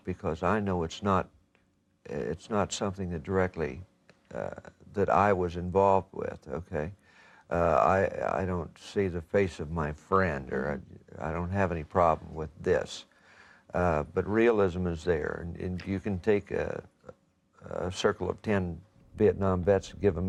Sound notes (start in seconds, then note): none